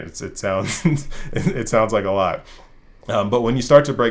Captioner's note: laugh